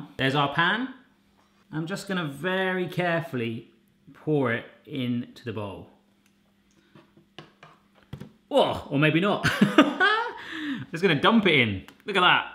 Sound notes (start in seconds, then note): 9.6 laughing